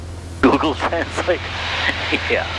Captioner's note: laughing